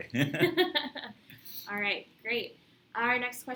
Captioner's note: laughter